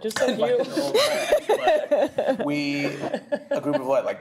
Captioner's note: laughter